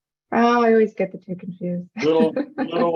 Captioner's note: laughs